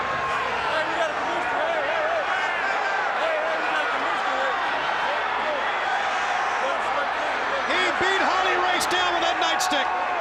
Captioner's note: crowd chatter